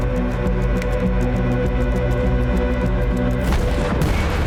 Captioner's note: fingers snap; explosions blaring